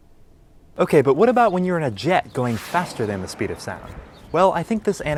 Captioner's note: jet Flyby